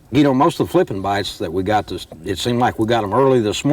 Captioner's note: none